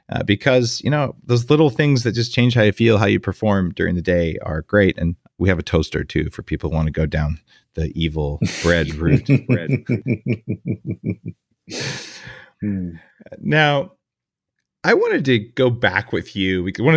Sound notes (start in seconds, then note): 8.4 light laughs